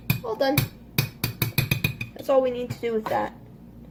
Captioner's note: repeated spoon clanking